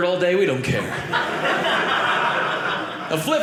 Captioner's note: audience laughing